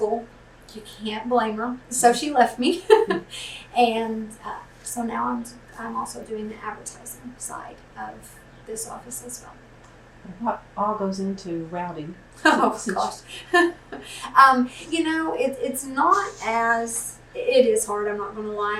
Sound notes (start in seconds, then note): 2.6 laughs; 12.4 laughs